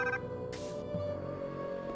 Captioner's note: phone ringing